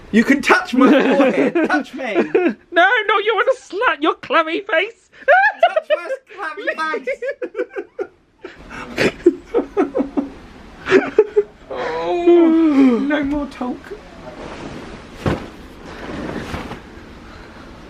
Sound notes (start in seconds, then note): 5.2 giggling; 6.9 both laughing